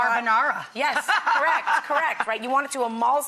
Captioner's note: laughs